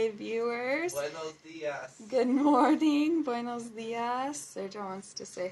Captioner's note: shouts "Buenos Dias!" from across the room